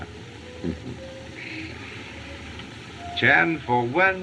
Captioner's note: chuckles